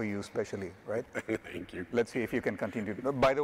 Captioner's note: chuckles